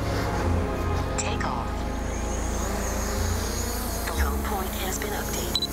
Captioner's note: drone